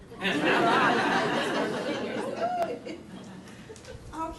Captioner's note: audience laughing